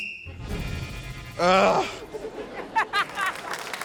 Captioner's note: blows whistle; groans; laughs